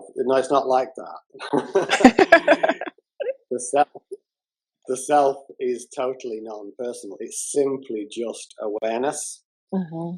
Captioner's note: laughter